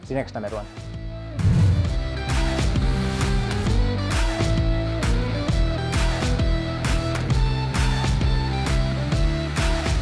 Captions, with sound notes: See next time, everyone. (fast whoosh) (upbeat music)